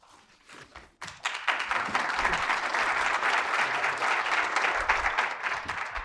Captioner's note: audience applauding